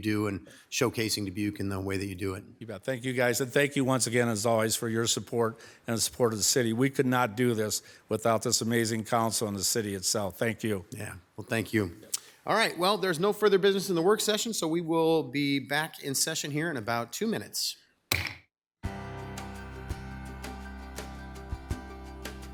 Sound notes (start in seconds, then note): 18.1 gavel banging; 18.8 bright music